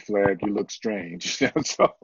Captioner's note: laughter